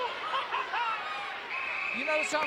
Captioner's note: Jimmy laughing